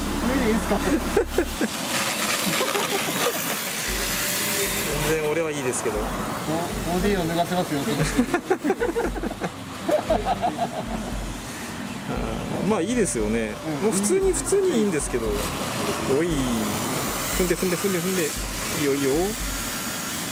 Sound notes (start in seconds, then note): 3.3 laughs; 8.0 laughs